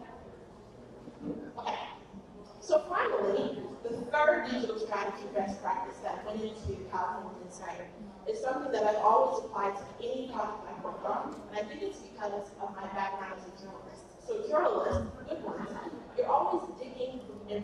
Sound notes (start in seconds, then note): none